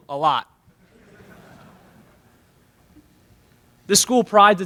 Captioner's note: laughter in the crowd